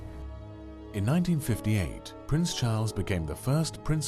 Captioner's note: voiceover